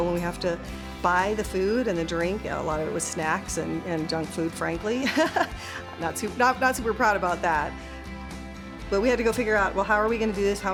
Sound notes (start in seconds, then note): 5.0 laughing